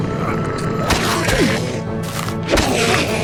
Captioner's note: N00bly chokes and gags; Enderman screams